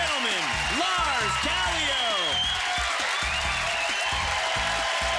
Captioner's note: cheers and applause